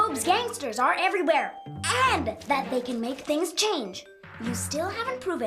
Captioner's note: none